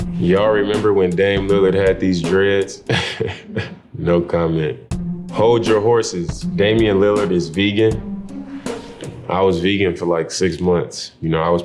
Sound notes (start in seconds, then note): 2.8 dame laughing